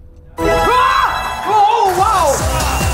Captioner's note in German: Jubelrufe